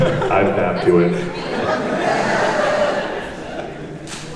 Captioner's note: laughing